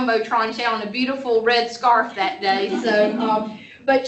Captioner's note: laughter